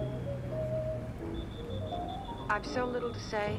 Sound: distant traffic street whistling

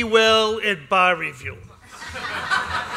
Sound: laughter

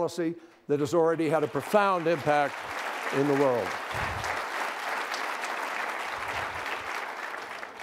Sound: applause

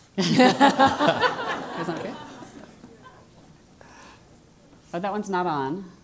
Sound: laugh

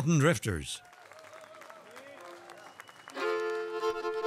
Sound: audience applauds; bright bluegrass music

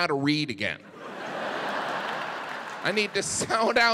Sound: audience laughing

